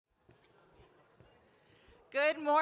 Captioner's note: audience chatters